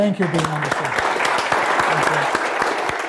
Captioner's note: applause